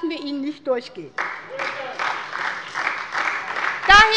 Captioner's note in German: Beifall bei der SPD